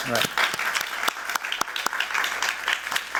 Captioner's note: applause